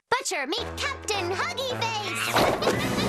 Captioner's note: screech